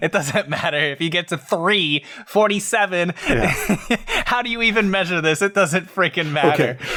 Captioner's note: laughs